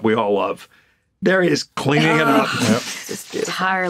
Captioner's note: groans